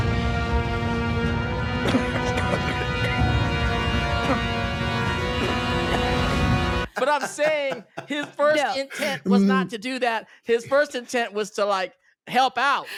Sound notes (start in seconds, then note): 1.8 coughing